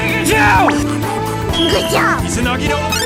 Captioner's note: duck quacking